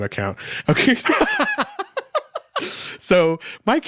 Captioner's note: both laughing